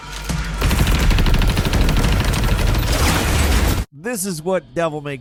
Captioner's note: gunshots banging